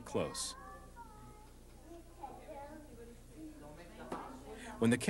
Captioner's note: people talking